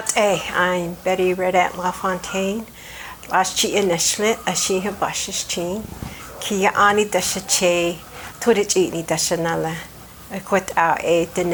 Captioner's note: speaks Navajo